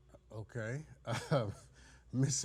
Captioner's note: judge giggles